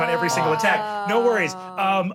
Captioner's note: groans